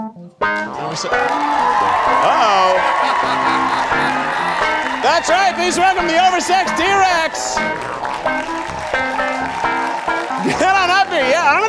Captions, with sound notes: (audience cheering) (T-Rex laughing) That's right, this one, the Over-Sexed T-Rex. (funky music) - Head on up here.